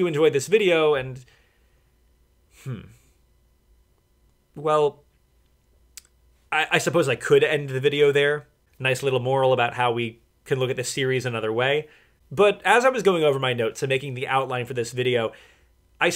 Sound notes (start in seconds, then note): none